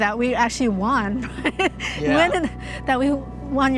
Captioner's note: laughs